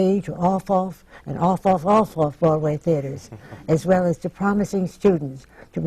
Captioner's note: laughs